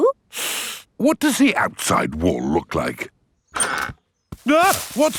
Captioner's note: inhales sharply